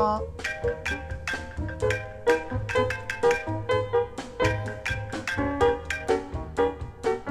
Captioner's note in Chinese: 電話鈴聲